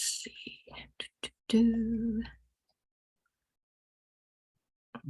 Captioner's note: humming